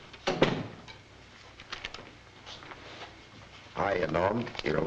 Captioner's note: door thuds shut